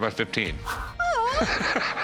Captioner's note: laughs